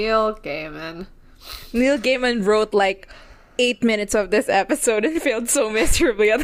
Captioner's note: laughing